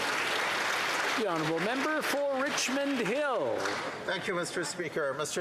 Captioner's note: applause